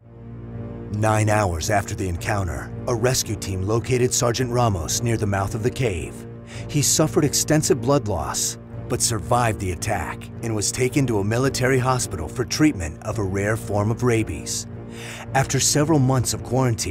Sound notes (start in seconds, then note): none